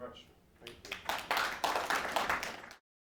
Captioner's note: applause